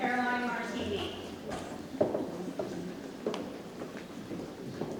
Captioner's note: shoes tapping